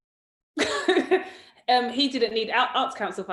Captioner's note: laughs